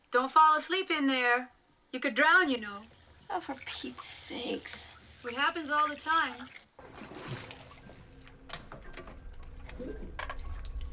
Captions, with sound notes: - Don't fall asleep in there. You could drown you know? - Oh for Pete's sakes. - It happens all the time. (bath water babbles)